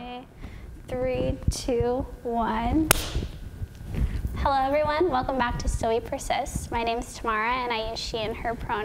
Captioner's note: clap